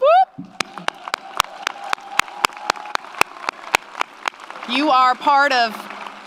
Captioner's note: audience cheers; audience applauds